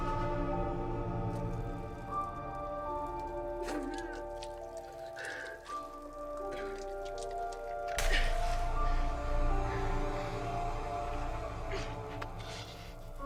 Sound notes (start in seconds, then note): 0.1 grim music continues; 3.8 Jordyn crying; 7.9 grim music